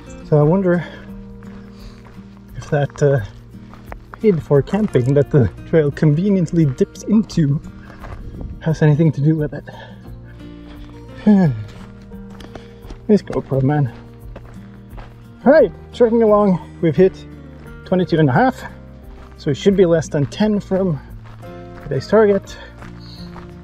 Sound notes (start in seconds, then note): 9.7 sighs